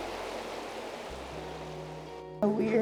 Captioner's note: wind blowing